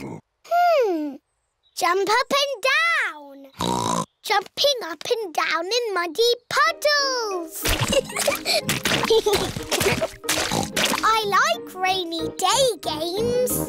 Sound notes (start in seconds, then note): 3.6 oinks; 7.7 both giggling; 9.3 oinks